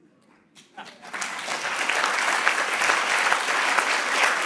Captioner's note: audience clapping